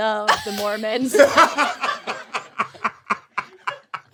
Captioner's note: all laughing